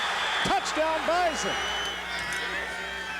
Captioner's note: loud cheering